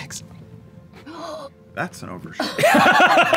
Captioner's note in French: halète; rires